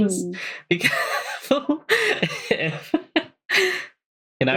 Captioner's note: laughing